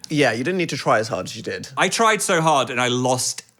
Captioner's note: none